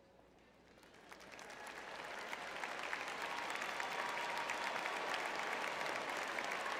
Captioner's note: audience cheering